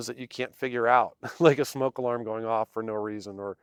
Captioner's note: chuckles